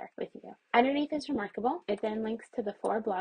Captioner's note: mouse clicks